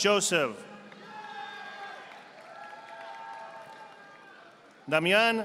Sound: audience applauding

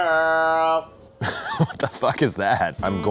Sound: laughing

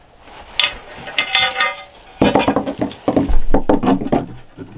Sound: metal clanging

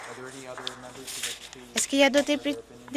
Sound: some Applause

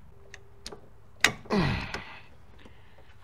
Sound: grunting

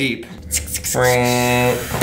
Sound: making whirring sounds

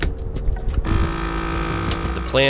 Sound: sealer humming

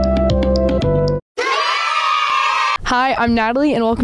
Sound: cheering hooray sound effect

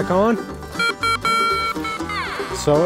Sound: machine beeps

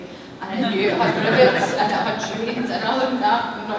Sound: laughter

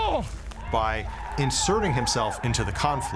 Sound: stewart with scottish accent

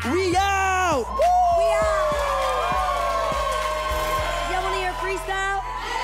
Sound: audience cheers

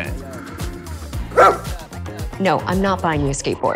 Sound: dog barks

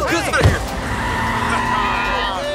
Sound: tires screeching; carjackers laughing

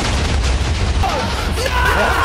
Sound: loud explosion noises

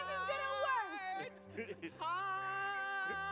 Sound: laughs

